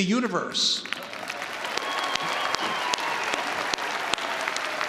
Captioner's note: audience applauding